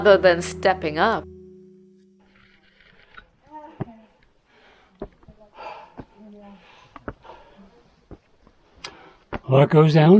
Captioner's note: breathing heavily